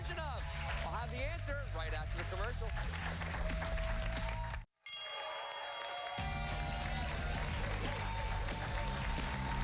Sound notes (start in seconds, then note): 1.5 bell; 1.5 cheers and applause